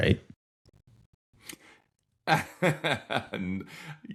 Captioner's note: laughing